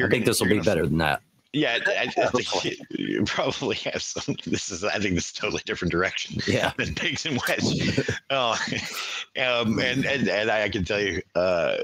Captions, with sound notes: - I think this will be better than that. - Yeah, I think you probably have some. I think this is totally different direction than Biggs and Wish. (laughing) And I can tell you--